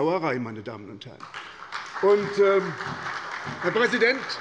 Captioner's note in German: Beifall bei der SPD